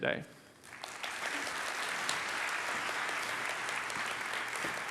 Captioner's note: applause